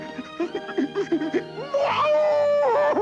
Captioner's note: whimpering of Marc Anthony